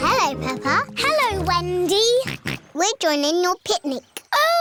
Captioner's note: snorts